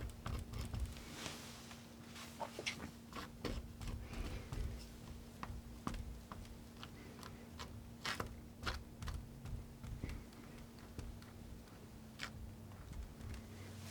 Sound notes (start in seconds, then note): 2.2 scratching